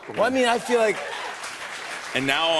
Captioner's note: cheers and applause